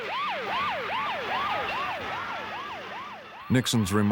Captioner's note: siren howling